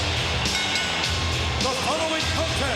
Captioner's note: bell rings